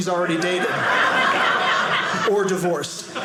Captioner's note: audience laughing